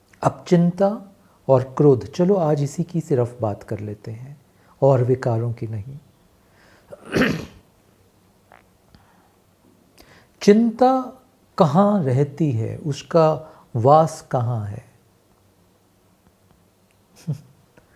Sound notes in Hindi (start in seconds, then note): 6.9 गला साफ़ करने की आवाज़